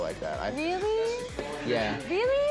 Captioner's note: none